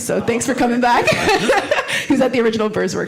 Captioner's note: laughs